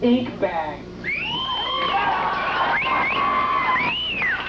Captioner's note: crowd cheering